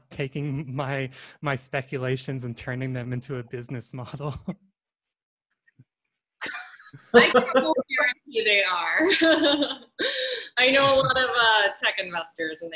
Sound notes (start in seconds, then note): 5.0 laughter; 10.7 laughs